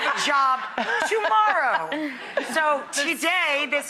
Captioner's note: Emme laughing